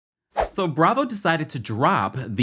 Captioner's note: air whooshing